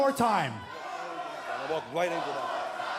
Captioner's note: fans chanting